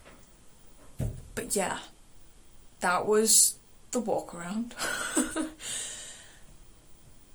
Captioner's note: laughs